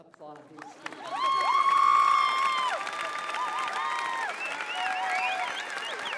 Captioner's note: applause, cheering